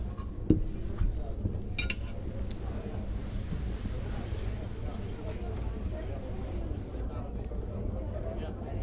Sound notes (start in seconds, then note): 3.7 chatter and people coming in the room